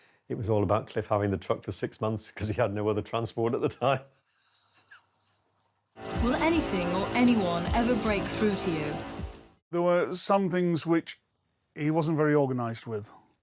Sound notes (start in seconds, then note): 5.3 laughing